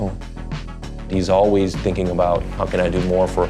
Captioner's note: in English